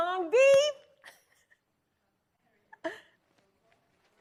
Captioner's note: chuckles